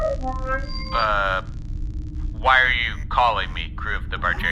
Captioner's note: outgoing-transmission noise